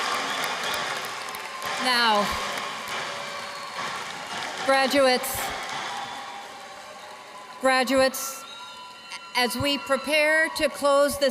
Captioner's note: cheers and applause